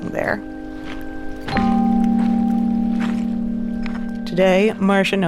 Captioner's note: bells chime